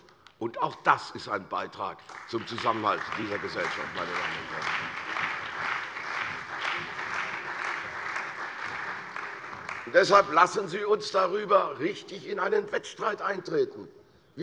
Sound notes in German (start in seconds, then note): 4.6 Beifall bei der CDU und dem BÜNDNIS 90/DIE GRÜNEN